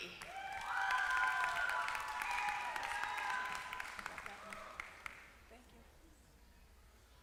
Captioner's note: applause